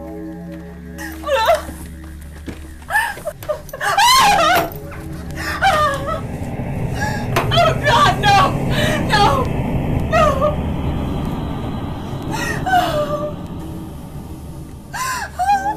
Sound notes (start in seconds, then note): 4.3 Kate yelling; 12.9 Kate whimpering